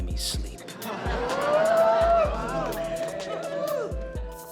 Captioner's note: laughter and whooping